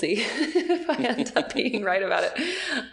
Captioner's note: laughing